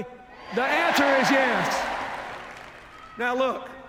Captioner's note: applause